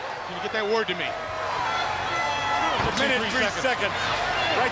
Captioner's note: crowd cheering